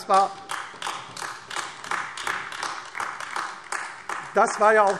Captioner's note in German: Beifall AfD